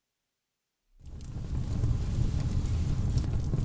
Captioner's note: fire sound effect